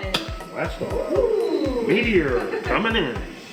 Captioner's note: laughs; laughter; mimics rocket engine